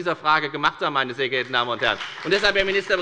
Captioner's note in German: Beifall bei der FDP